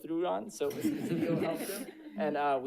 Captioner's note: audience laughing